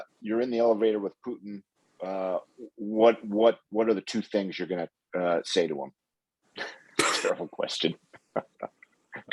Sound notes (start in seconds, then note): 6.4 laughs; 8.1 laughs